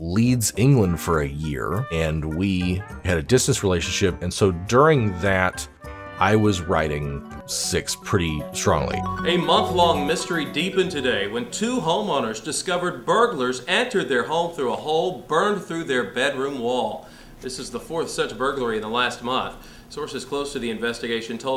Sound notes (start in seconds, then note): none